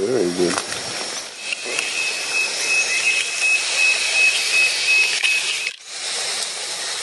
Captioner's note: insect sound